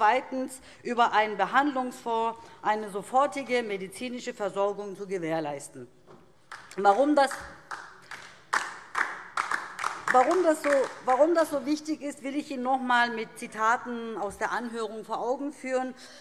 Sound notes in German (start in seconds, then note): 6.5 Beifall DIE LINKE